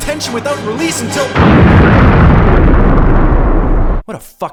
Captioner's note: explosion